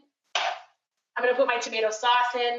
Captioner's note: thunking